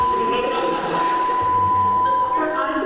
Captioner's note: beeeeeeeeeeeeep